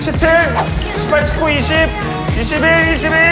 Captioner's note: swoosh